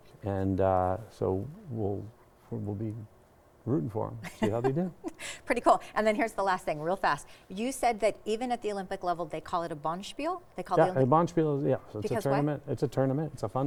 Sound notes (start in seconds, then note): 4.2 chuckling